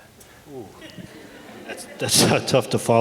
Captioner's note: audience laughs